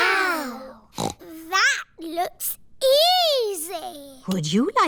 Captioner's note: snorts